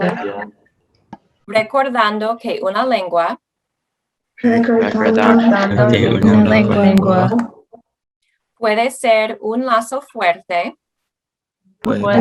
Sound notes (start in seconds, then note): 1.6 speaking Spanish; 4.6 group speaking Spanish; 8.7 speaking Spanish; 11.9 group speaking Spanish